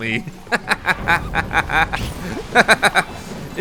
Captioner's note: laughing